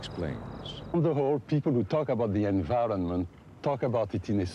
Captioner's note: speaks with a French accent